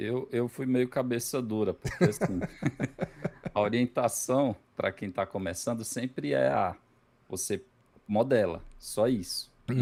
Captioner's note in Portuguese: risadas